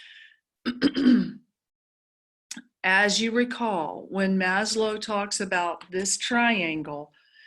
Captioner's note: cough